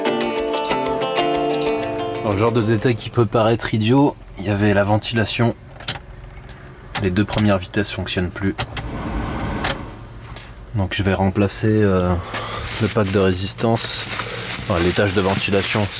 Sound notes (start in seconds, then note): 6.8 hvac